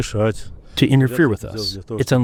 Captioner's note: through translator